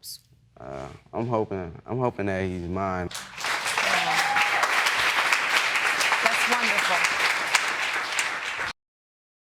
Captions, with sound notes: I'm hoping that he's mine. (CHEERING AND APPLAUSE) That's wonderful.